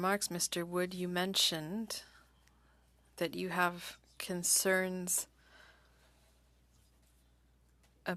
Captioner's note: speaking French